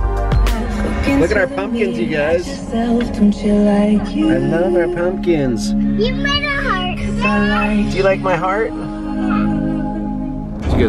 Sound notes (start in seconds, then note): 6.0 voiceover